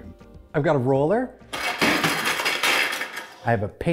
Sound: banging and rattling

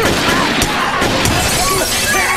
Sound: gunshot; glass shattered by bullet; screaming; man screams, but starts wheezing, and coughs

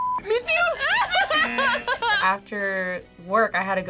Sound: both laugh; buzzer rings

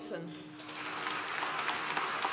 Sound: applause

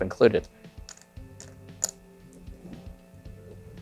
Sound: chips clattering

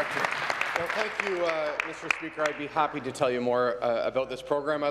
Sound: applause

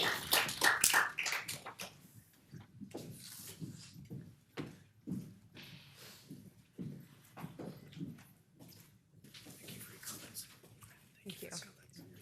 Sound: applause

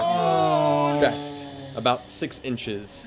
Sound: group groans

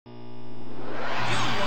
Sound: tube tv powering up

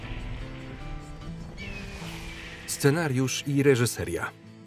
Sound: hawk screeching

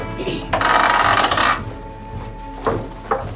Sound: gate creaking

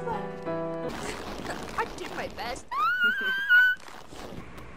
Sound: splutters; shrieks

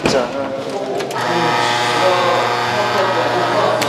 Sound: buzz

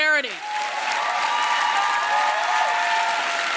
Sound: applause

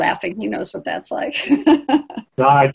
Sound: laughing

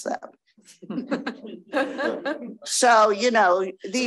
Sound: crowd laughing

